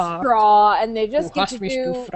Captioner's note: speaking unintelligible fake german